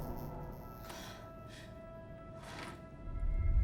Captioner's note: breathing heavily